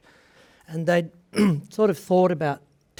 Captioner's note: clears throat